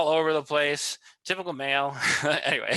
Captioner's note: laughs